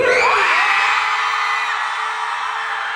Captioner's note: crowd screams